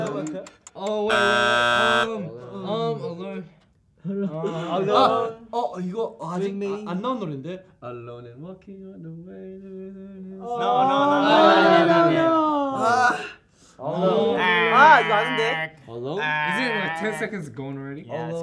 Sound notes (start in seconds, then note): 1.1 buzzer sounds; 6.2 speaking in Korean; 14.7 imitating buzzer noise